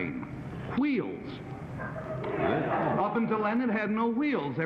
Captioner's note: laughing